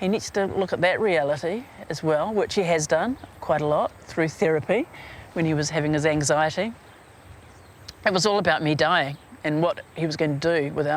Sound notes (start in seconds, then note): none